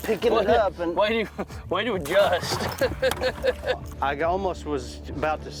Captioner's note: laughs